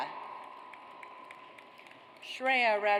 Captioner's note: audience applauds